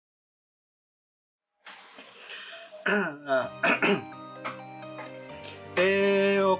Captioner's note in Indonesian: batuk